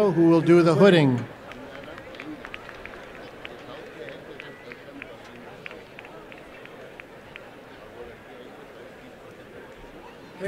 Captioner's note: applause